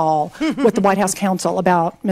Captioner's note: laughs